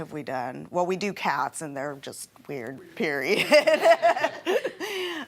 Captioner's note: laughing